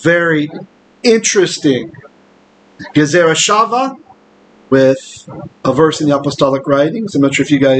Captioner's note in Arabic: بالعبرية